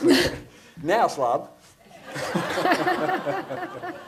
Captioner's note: laughing